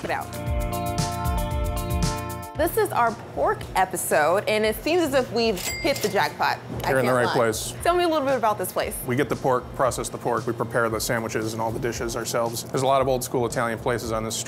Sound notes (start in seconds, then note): 0.0 mellow rock music; 5.5 cha-ching